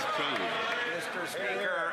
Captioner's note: some Applause